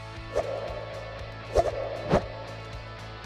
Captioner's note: swiping sound